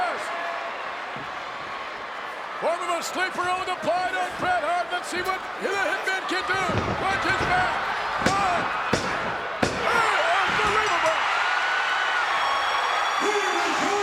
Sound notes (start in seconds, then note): 0.9 applause; 8.4 applause